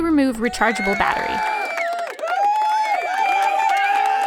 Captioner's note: applause